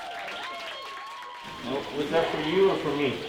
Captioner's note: applause